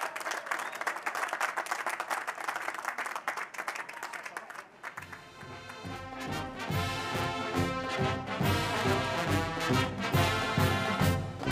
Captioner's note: cheers and applause